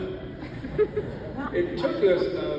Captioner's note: audience laughs